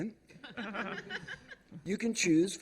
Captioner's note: laughter